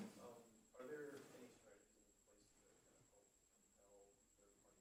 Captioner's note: faintly speaking